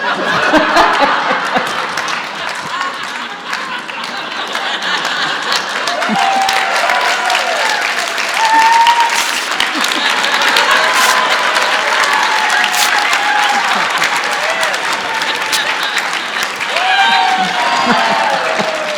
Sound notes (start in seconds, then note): 0.1 audience laughs and applauds; 6.4 audience cheers; 8.9 audience laughs, applauds and cheers